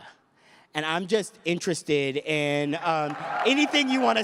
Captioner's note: cheers and applause